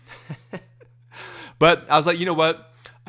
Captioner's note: laughs